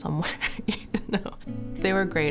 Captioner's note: chuckling